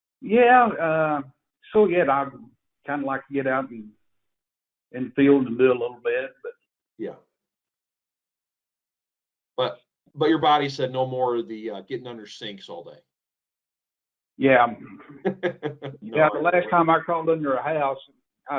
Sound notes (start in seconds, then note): 14.5 laughs